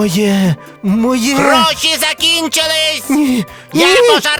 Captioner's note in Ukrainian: галас папуги